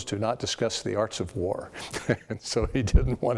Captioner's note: laugh